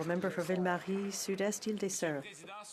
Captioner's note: some Applause